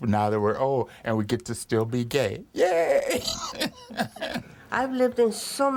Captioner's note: chuckles